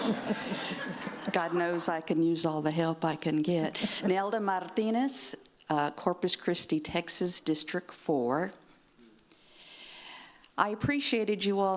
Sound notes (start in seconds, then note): 3.8 laughter